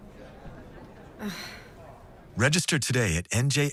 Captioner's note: deep sigh